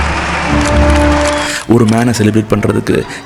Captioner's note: crowd cheering; camera shutters